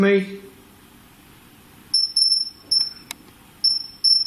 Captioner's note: beeping